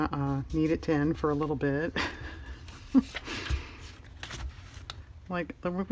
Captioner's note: laughs